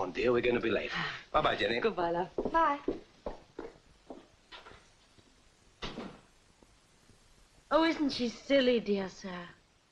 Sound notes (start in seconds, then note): 5.8 door clicks shut